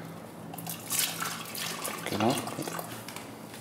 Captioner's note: splashing